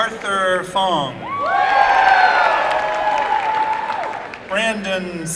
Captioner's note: applause and cheering